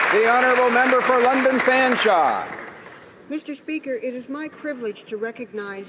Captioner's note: applause